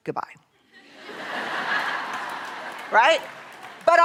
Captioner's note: laughter